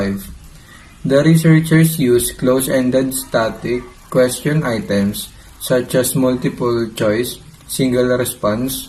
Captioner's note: Static